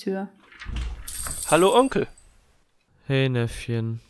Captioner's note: doorbell rings